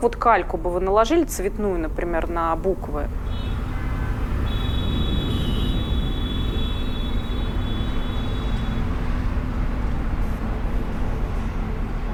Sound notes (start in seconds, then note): 3.7 horns honking